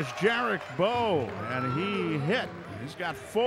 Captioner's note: cheering; clapping